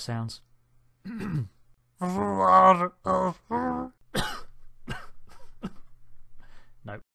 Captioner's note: coughs